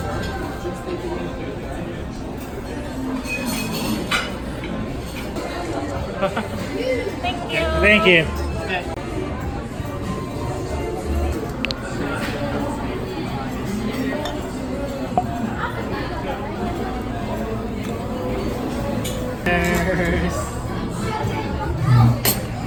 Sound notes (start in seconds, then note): 15.1 glug, glug, glug~